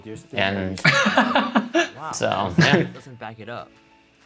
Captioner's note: laughing